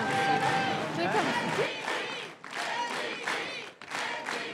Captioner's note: chanting